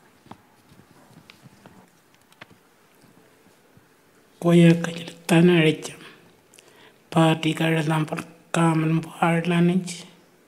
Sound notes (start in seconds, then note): 4.5 speaking Anmatyerr